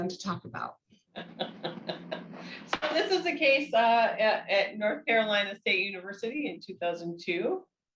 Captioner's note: laughs